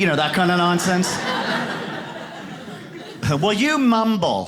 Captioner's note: audience laughs